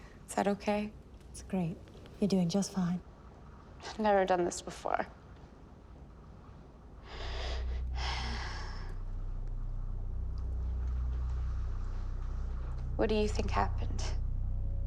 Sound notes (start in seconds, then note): 7.0 inhales deeply